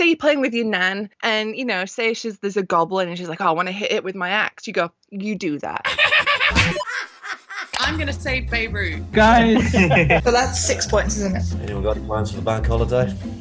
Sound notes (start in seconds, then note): 5.8 evil voice laughs; 9.2 group laughs